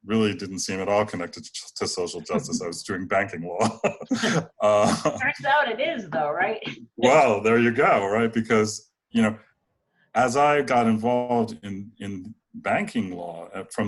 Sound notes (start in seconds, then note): 3.7 chuckles